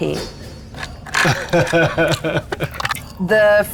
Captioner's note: chuckling